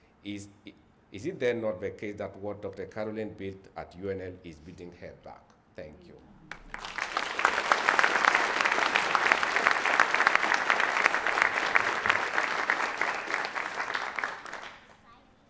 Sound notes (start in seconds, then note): 6.4 audience clapping